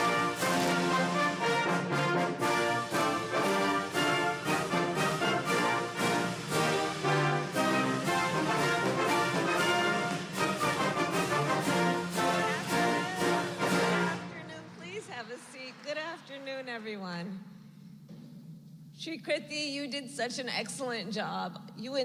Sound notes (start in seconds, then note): 15.9 applause